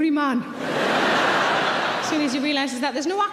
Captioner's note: audience laughing